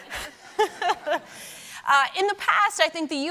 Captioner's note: laughs; audience laughing